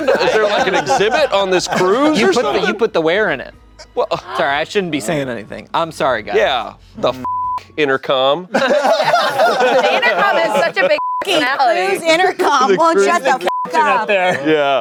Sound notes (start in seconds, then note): 7.2 beep; 8.5 everyone laughing; 13.2 beep